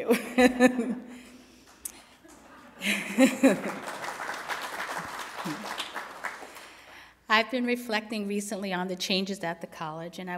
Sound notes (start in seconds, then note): 0.3 laughs; 3.2 applause